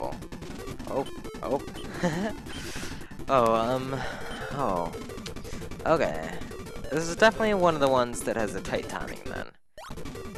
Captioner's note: laughs